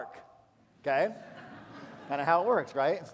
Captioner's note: laughter